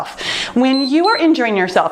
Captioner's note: timer beeps